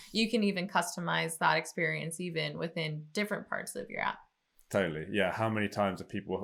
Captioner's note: none